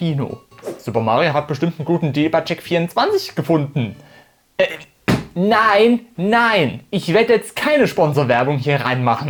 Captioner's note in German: Tisch hau